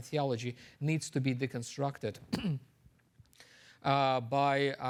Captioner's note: clears throat